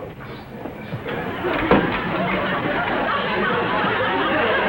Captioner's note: audience laughs